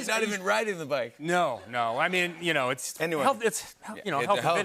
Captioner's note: laughter